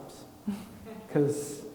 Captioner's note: chuckles